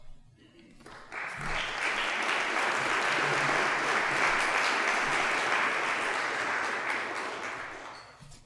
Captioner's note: applause